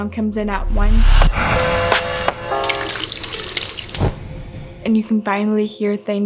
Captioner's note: sudden sound of a speaker, a sink, and a gas stove igniting